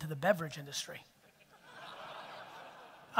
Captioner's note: audience laughter